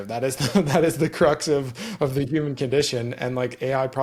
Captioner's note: laughs